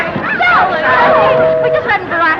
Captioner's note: ship horn